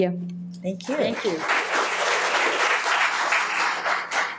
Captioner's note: audience clapping